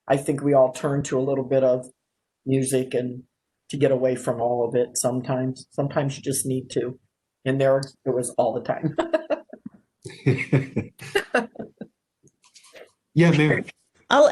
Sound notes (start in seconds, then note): 10.0 laughs